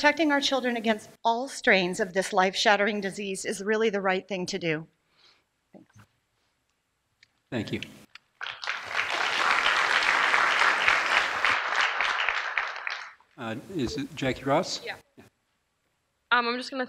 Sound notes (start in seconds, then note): 8.3 applause